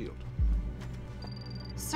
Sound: computer beeps

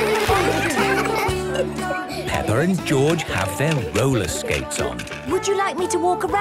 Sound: laughter; giggling

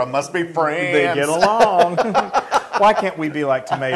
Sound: laugh

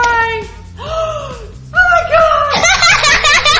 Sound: gasps; laughs

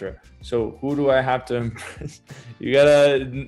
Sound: laughs

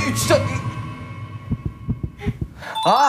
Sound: throbbing

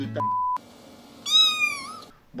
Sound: meowing

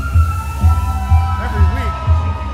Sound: crowd yelling

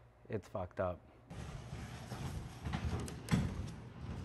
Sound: loud rustling

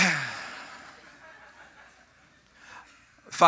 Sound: audience: Sacrilegious snickering

